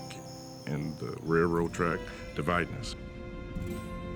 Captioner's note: insects chirping